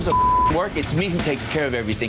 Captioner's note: beep